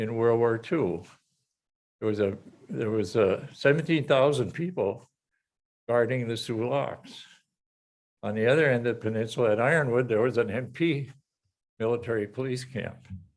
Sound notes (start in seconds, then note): none